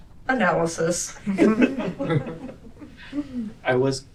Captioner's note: laughter